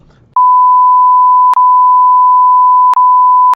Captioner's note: beep